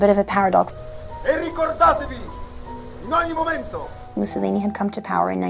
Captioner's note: Mussolini speaking in foreign language